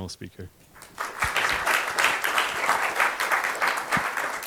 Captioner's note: applause